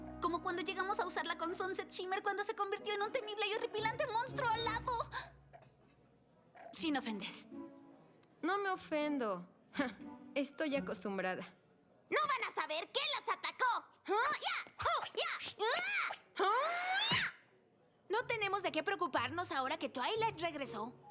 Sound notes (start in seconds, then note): 14.2 martial arts shouts